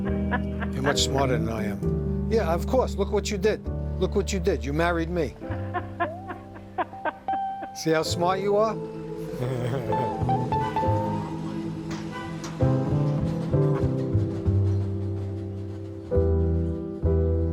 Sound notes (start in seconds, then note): 0.3 wife chuckling; 5.5 wife laughing; 9.3 chuckling; 11.6 gentle instrumental music